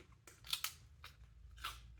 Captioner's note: crunch